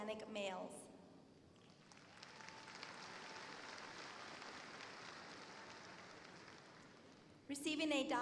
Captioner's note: applause